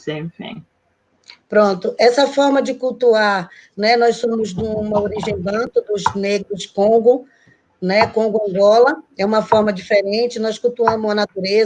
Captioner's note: speaking Portuguese